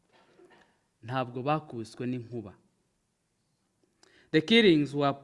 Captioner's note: speaks in foreign language